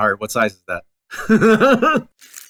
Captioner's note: laughs